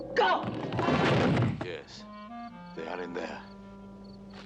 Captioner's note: thudding